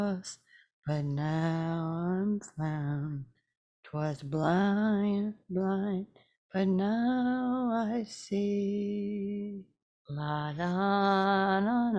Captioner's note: humming song; continues humming song